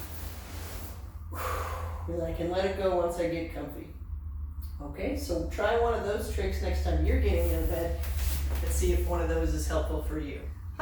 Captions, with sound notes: (exhales) I can let it go once I get comfy. Okay, so try one of those tricks next time you're getting out of bed, and see if one of those is helpful for you.